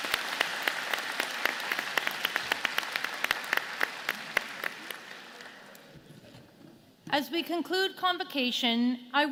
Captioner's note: applause